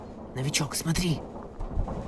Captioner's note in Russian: шёпотом